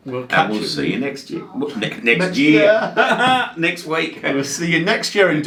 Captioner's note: laughing loudly